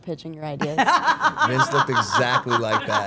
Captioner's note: Steph laughing